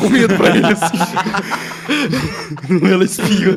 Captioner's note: laughs